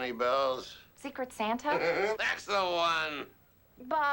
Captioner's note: laughs